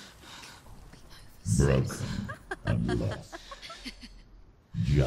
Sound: mocking laughter

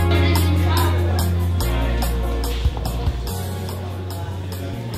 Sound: girls chattering

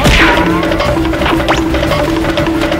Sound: cartoon swiping

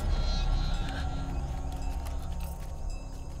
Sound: gasping

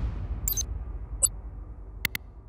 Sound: air whooshing; electronics pinging

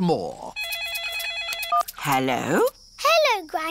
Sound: phone rings

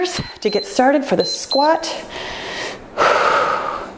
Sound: timer beeps

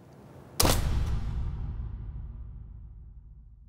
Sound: boom

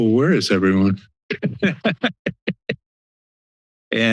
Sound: laughs

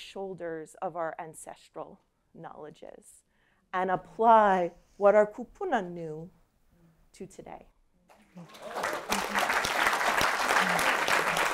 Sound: applause

